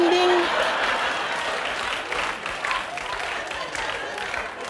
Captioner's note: audience laughing